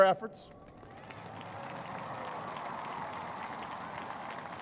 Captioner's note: cheers and applause